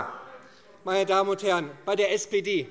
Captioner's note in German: Zurufe CDU